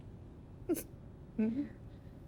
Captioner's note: sobs